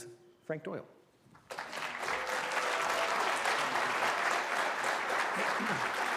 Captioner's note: applause